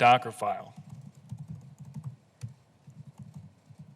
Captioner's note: typing sound